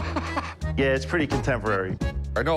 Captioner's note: laughing